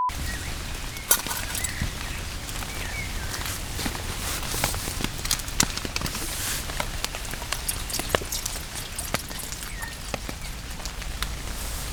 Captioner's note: rain